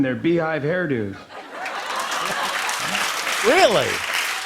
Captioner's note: laughter and applause